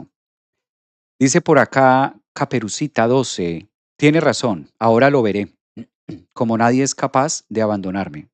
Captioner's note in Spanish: carraspeo